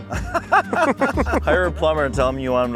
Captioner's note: laughing